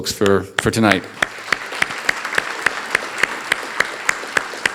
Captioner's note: audience applauding